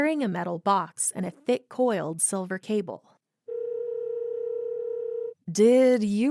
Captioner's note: sound of phone ringing